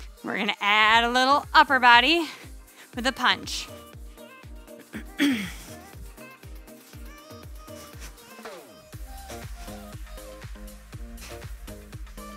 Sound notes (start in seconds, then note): 4.2 soft upbeat music; 4.9 breathes